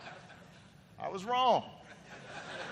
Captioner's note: laughter